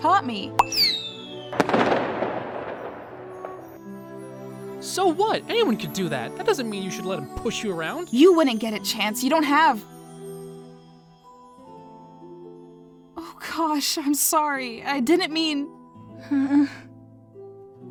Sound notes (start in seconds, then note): 0.6 firework sfx; 16.2 sad whimper